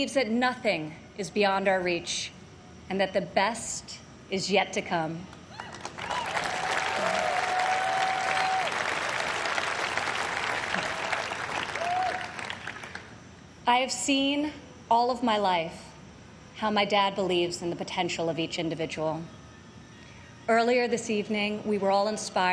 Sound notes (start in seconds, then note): 8.1 applause